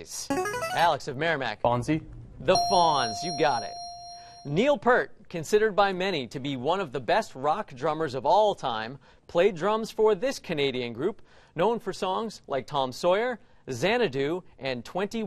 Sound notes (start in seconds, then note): 2.5 ding